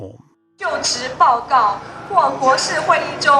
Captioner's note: woman speaking on loudspeaker